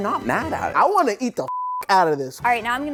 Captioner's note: beep